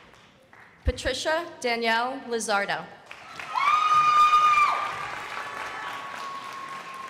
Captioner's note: crowd applauding